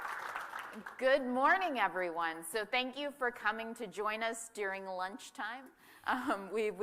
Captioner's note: applause